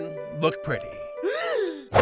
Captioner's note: gasp!